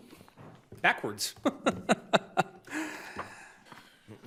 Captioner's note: chuckling